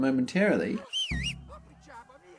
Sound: whistle

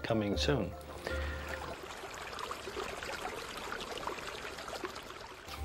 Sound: water splashing

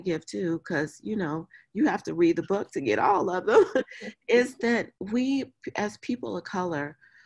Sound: laughs

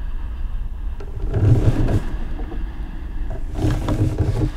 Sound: sighing

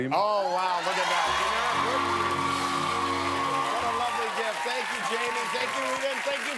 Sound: cheers and applause

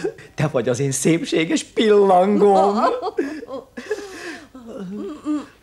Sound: giggles seductively

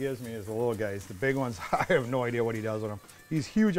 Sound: chuckles

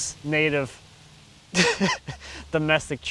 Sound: laughs

